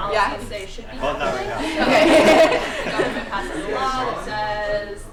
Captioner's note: laughter